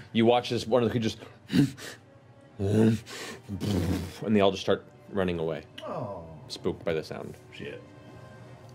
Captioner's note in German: überrumpeltes Grunzen